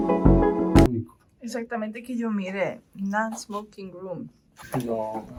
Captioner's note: Spanish